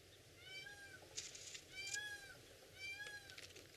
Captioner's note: peacocks squawking